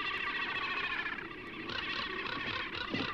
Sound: crow crackles; birds crashing; hummingbird twitters

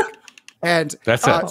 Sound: clicks

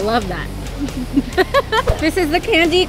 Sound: chuckling

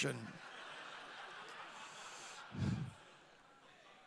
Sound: audience laughing

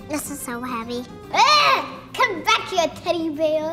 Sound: screams

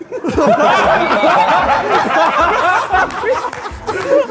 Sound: Sidemen laughing

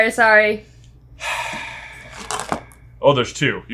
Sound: sighs

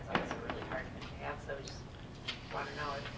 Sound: faintly speaking

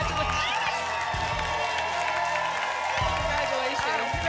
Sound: applause and cheering cont

